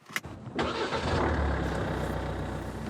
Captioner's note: engine starts